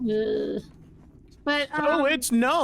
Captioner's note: groans